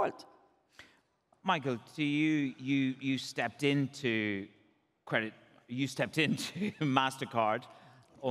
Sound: chuckles

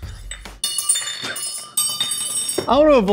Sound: metal cups clink on the surface

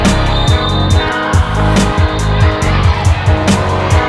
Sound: whistle blows

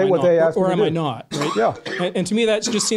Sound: voiceover

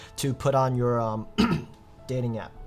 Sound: coughs

